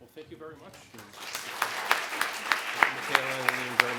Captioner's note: applause